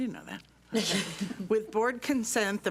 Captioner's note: laughs